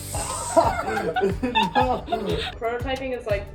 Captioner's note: laughter